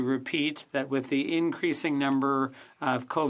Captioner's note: speaking French